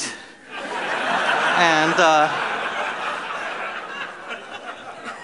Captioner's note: laughter